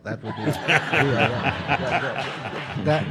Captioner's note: audience laughing